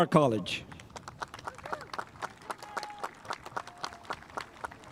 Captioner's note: spectators applauding